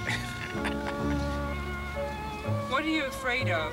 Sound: laughing

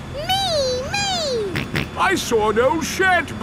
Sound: snorts

